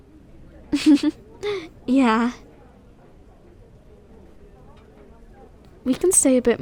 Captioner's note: soft laugh